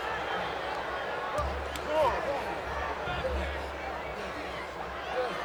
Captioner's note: crowd chattering